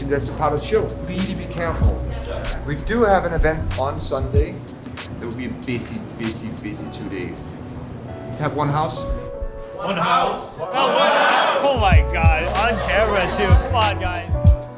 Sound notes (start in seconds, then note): 10.8 staff laughing; 14.6 mellow chillhop music continues